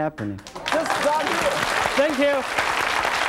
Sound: audience applauding

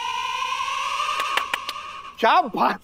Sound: claps

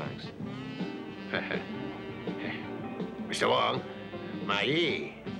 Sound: chuckles

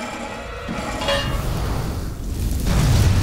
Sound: clanking

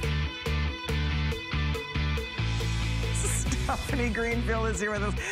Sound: laughter

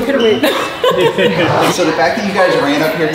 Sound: laughs

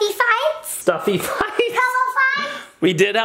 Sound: laughs

